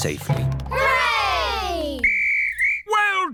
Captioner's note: blows whistle